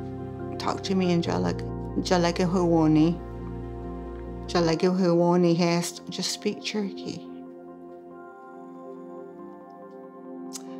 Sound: speaks Cherokee

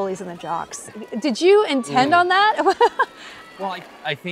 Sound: chuckles

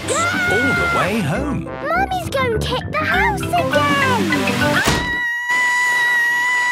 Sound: Mummy Pig screaming

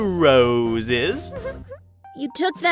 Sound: giggling

